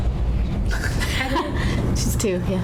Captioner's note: laughing